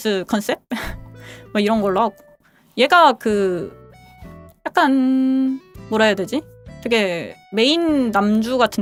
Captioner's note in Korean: 콧방귀